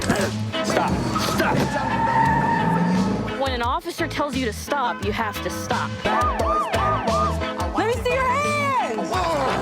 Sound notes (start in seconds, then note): 0.5 tires scrcreeching